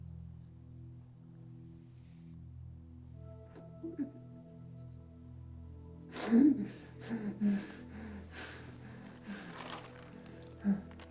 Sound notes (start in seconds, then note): 4.3 Lance sobbing; 4.3 solemn music